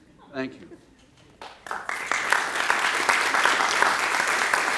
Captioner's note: applause